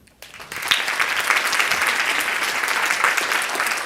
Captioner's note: applause